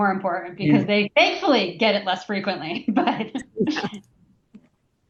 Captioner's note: laughs